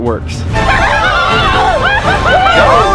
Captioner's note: group shouting and laughing